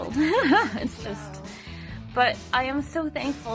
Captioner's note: giggles